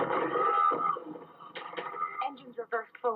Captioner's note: alarm blaring